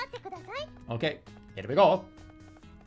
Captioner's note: Mario accent